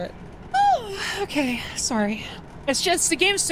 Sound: yawn

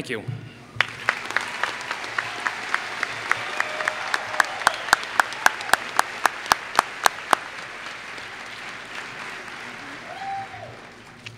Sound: applause

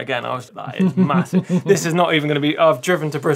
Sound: laughing

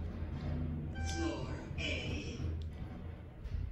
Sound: elevator voice

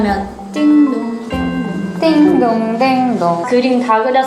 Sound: ding ding ding ding

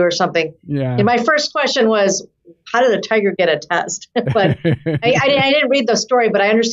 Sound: laughter

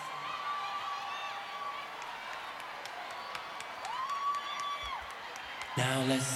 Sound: echoes

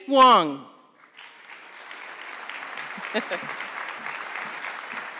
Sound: audience clapping

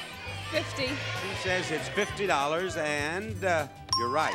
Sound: audience cheering; bell pings

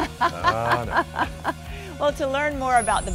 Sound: laughter

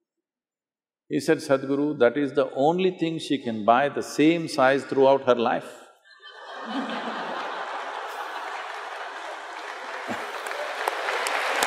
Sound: laughter/Applause

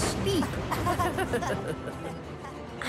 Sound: they laugh

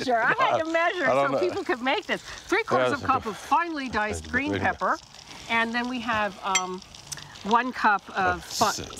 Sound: none

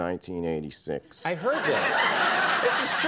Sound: audience laughing

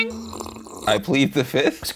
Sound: slurping

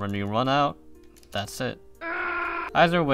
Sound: snake scream

